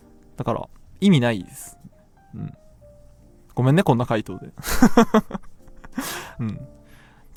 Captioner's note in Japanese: 笑い